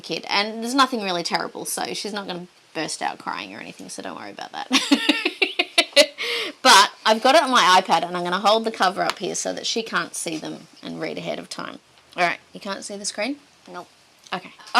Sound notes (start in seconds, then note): 4.7 chuckles